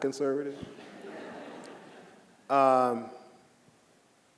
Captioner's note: audience laughing